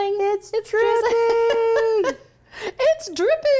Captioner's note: laughs